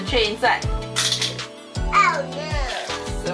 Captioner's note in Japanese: 画面外に何かを落とします